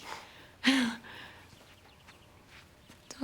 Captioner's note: laughing